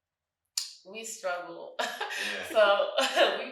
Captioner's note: chuckles